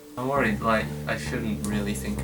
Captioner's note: none